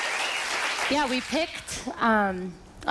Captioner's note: applause